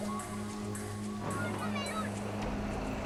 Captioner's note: children shouting